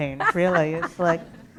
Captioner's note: laughter